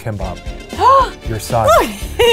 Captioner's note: gasps